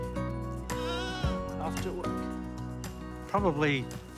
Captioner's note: bleats